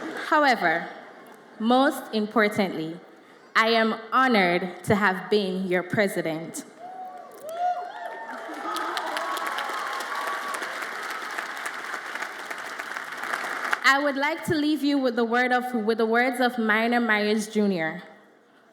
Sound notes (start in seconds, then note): 0.0 audience laughs; 6.9 audience applauds and cheers